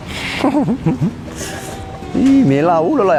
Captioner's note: chuckles